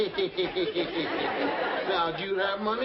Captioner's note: giggling